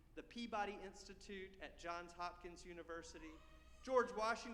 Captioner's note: none